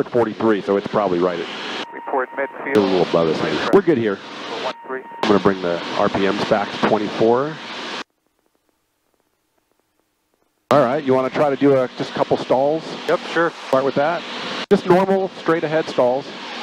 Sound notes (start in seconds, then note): 1.4 radio static